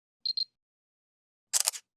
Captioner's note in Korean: 카메라 셔터음; 기계작동음